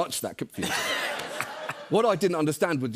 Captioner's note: laughter